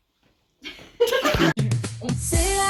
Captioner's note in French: rires